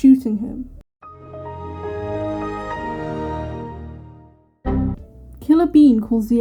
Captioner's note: Windows startup sound